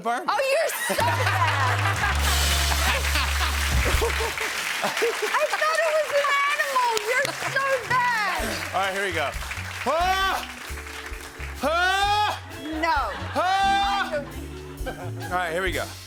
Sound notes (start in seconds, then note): 1.5 cheering and applause; 1.5 sad trombone plays; 3.0 laughing